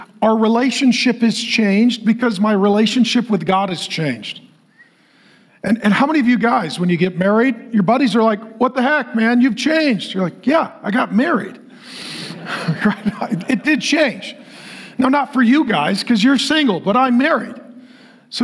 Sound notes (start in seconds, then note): 11.8 congregation laughing